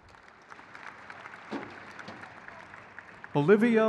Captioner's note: crowd claps